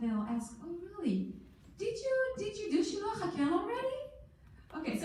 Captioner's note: in foreign language